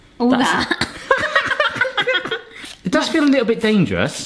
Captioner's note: giggles